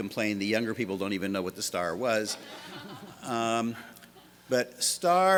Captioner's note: laughter